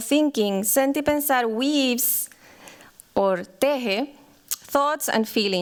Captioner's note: non-english